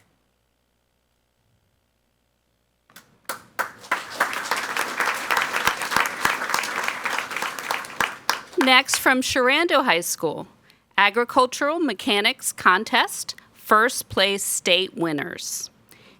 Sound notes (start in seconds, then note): 2.9 people clapping